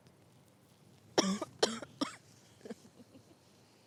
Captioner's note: Kimberly coughs